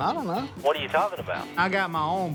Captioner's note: on phone